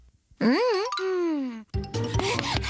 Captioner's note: huffing and puffing